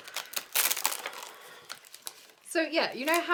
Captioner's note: rustling